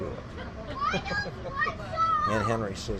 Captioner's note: laughs